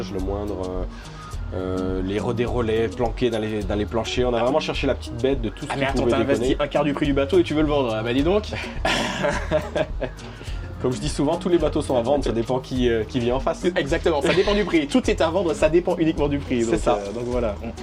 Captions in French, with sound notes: le moindre, les relais planqués dans les dans les planchers. On a vraiment cherché la petite bête de tout, tu as investi un quart du prix du bateau et tu veux le vendre. Ben dis donc [rires] comme je dis souvent tous les bateaux sont à vendre. Ça dépend qui vient en face. Exactement. Ça dépend du prix. Tout est à vendre. Ça dépend uniquement du prix. Donc donc voilà.